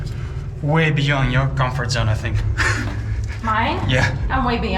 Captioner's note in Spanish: ríe